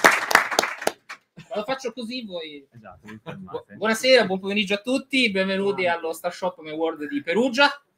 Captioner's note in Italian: Applauso